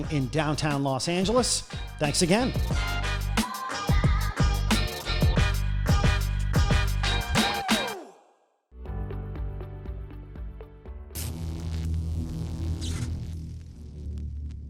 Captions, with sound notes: in downtown Los Angeles, thanks again. (groovy music) (electric buzz)